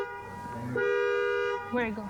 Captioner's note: horn honking